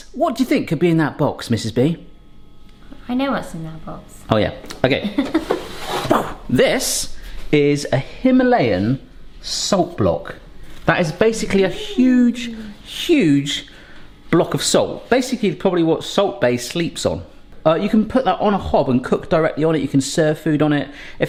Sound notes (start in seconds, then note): 5.0 giggles